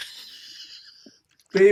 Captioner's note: laughs